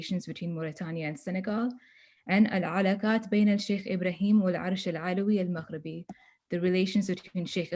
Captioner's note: non-english speech